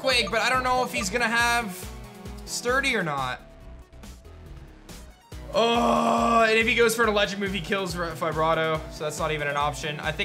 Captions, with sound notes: but I don't know if he's going to have Sturdy or not. (grunts) And if he goes for an Electric move, he kills Fibrato, so that's not even an option.